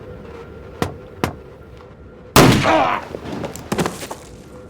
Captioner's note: groans